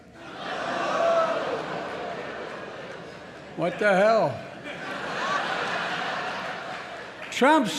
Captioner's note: laughter